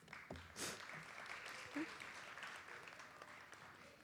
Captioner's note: audience applauds